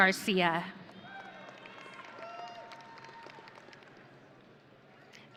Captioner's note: audience cheering